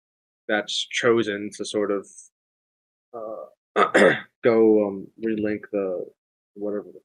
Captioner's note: clears throat